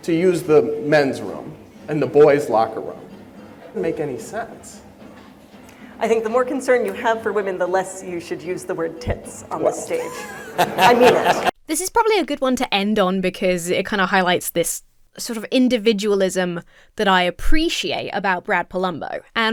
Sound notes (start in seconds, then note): 9.9 audience laughs